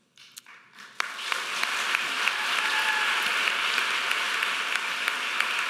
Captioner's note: audience applauding